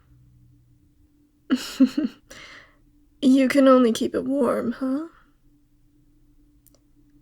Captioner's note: laugh